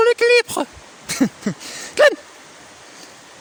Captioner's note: laughs